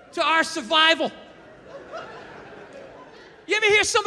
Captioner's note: crowd laughs